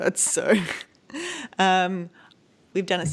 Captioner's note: laughing